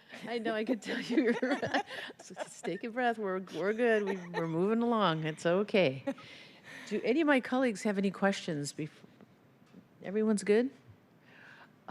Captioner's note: laughter